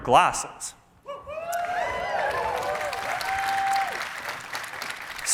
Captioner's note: cheering